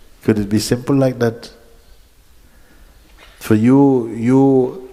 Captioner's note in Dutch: none